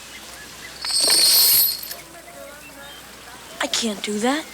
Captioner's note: chain rattles